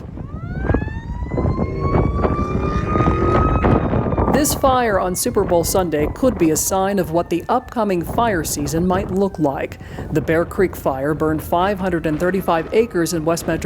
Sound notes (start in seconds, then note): 0.3 wind blowing; 1.7 siren goes off